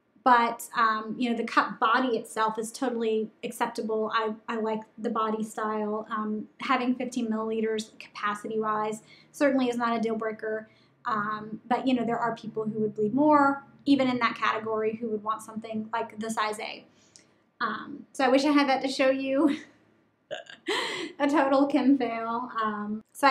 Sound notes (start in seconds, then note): 20.4 laughing